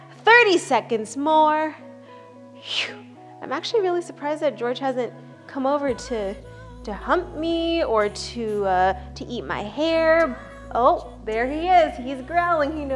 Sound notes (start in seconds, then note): 2.6 exhales